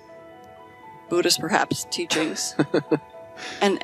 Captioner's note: laughing